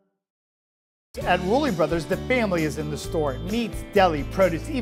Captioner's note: voiceover